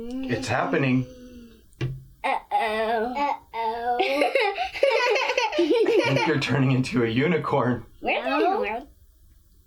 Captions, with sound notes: It's happening... Uh oh. [Laughing with anticipation] You're turning into a unicorn. No. Where's my horn?